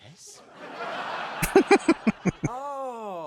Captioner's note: chuckling